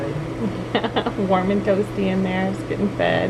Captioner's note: laughs